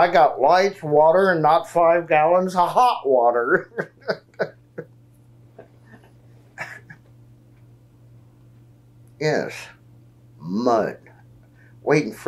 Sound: laughs

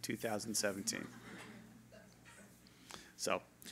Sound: laughter

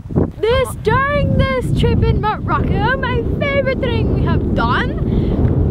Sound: German accent

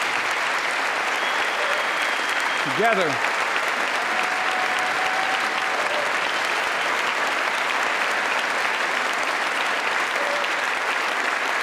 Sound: applause

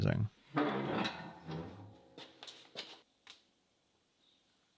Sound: metal clanking

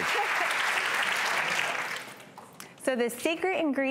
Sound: applause

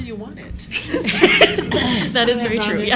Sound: laughter

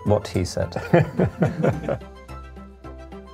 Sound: laughter

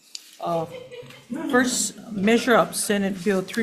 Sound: audience laughs

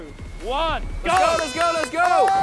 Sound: contestants clapping; horn blowing

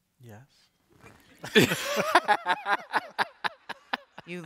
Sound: laughter

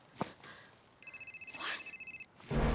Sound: phone ringing

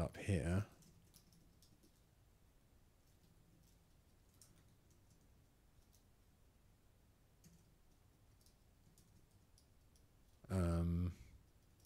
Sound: silence

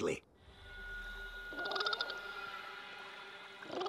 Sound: chirping; chirping

